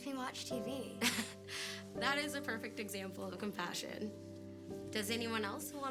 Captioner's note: laughs